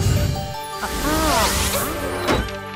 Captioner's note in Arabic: صوت مرح